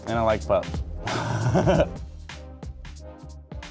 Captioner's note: laughing